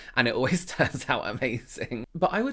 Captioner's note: chuckling